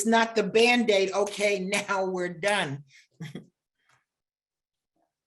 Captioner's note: chuckles